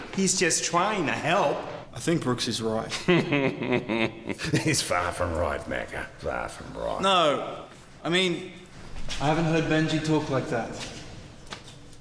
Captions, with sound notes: - He's just trying to help. - I think Brooks is right. (laughing) - He's far from right, Macker. Far from right. - No, I mean I haven't heard Benjy talk like that.